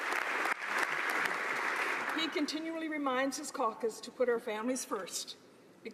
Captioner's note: applause